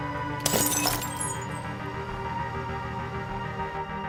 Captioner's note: glass smashes